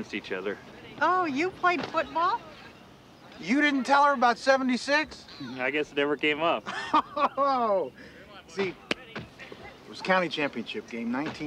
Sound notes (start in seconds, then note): 6.6 laughs